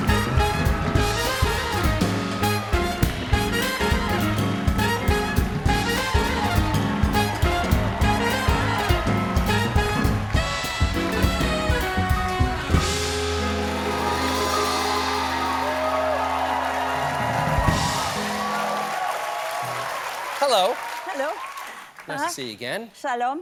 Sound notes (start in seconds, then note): 0.0 applause; 5.9 applause